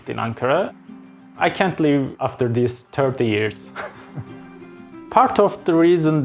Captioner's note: chuckling